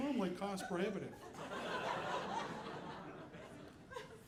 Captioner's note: audience laughing